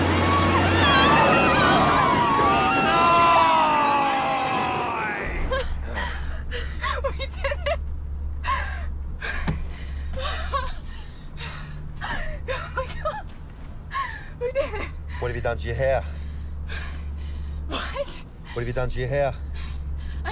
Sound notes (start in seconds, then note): 5.5 laughing